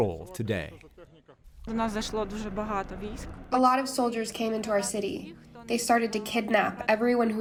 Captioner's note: through translator